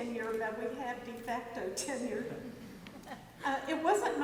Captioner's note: laughs